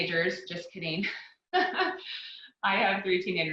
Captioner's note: laughs